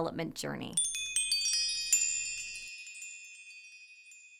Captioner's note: bells chiming